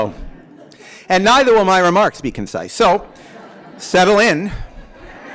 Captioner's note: laughter; laughter